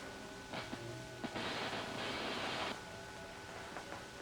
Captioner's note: static crackling